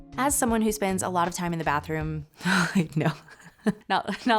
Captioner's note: laughs